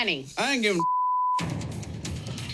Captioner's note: beep